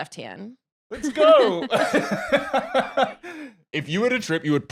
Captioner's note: laughs